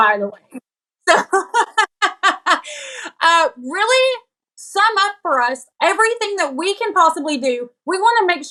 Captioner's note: laugh